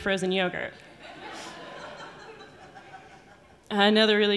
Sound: audience laughing

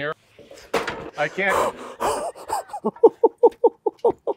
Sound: laughs

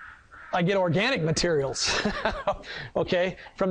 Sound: laughs

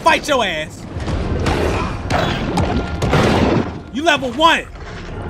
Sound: growling

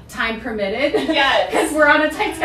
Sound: laughing

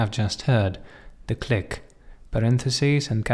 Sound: click

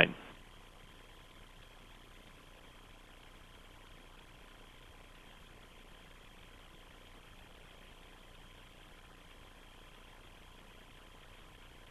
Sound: no speaking

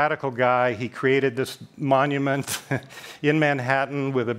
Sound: laughs

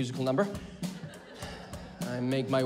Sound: laughter

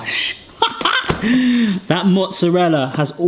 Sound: laughs

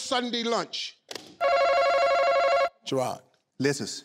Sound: phone ringing

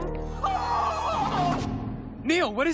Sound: shrieking

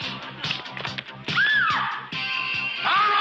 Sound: yelling

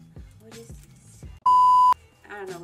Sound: beep

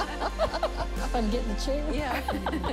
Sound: laughing

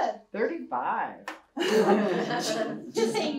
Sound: laughter

